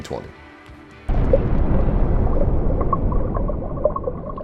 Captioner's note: water bubbling